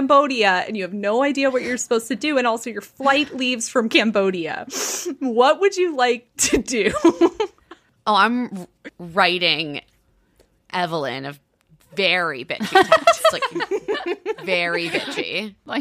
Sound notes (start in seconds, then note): 6.8 giggling; 12.7 all laughing